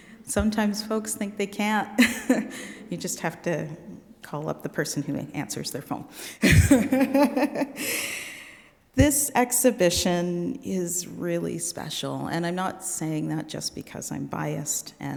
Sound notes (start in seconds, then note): 2.0 chuckling; 6.4 laughing